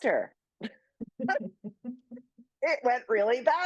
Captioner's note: laughs